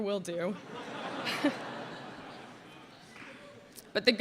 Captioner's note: laughter